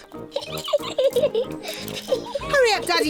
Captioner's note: giggling